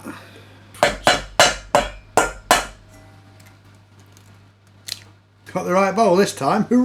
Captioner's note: banging